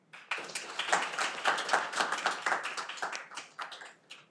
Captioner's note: audience applauding